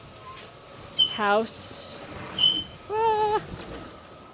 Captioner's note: door opening